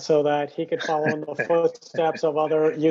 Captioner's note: laughs